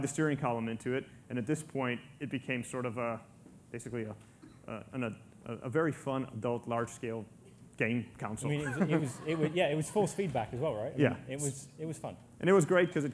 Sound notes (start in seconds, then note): 8.6 laughter